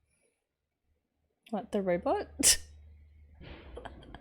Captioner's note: chuckles